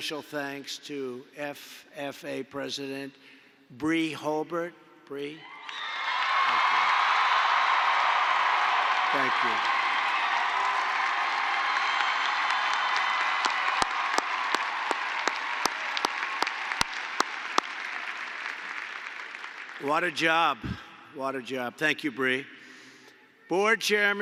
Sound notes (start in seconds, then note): 6.4 applause